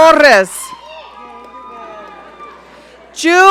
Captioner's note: audience cheering